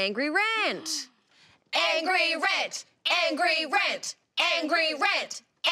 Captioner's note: chanting in unison